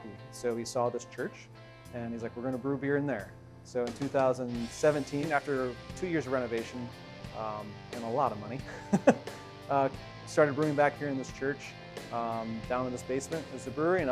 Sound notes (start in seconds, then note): 8.7 laughs